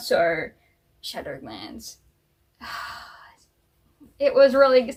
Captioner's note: sighs